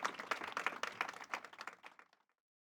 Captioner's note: audience applauding